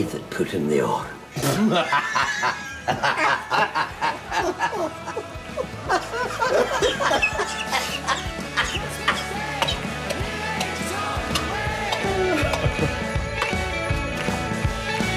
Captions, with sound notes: It was me that put in the orange. [LAUGHTER]